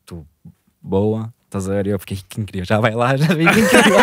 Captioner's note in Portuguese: risos